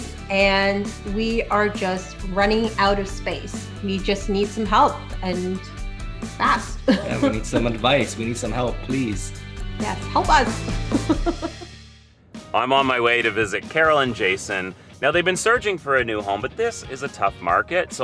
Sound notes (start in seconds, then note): 6.8 laughing; 10.8 both laughing